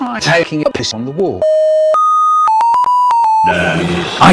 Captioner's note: beep to the tune